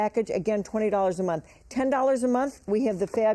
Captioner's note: none